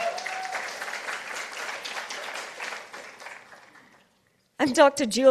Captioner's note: participants applauding